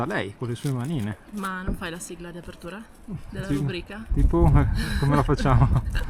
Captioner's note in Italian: risate